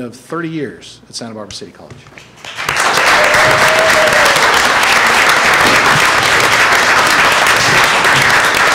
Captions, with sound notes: recognize her achievement of 30 years at Santa Barbara City College. (Applause)